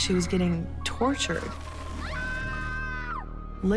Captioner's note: distant scream